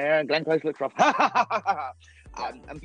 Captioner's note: laughing